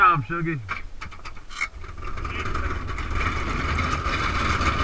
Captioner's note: bobsled rattling